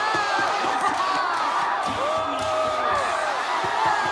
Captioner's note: more screaming